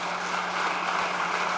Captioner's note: applause